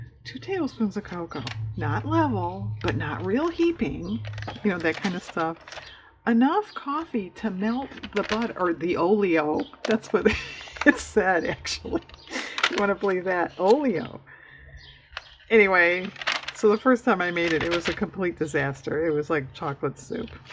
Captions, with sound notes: "two tablespoons of cocoa not level but not real heaping" you know that kind of stuff "enough coffee to melt the oleo" that's what it (laughs) said if you want to believe that" "oleo" anyway so the first time i made it, it was a complete disaster it was like chocolate soup,